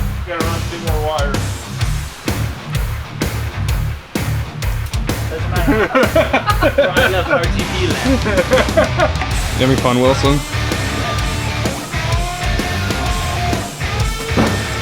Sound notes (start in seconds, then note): 3.4 rock music; 5.3 laughing; 12.2 rock music